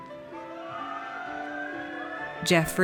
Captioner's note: audience cheers